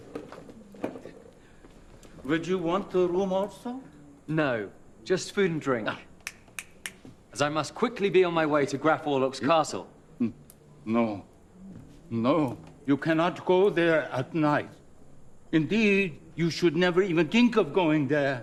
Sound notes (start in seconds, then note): none